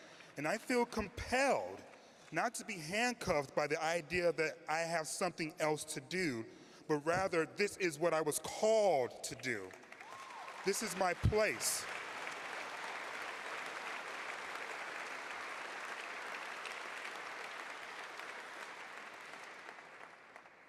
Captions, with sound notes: and I feel compelled not to be handcuffed by the idea that I have something else to do, but rather this is what I was called to do. [Cheers] This place-- [applause]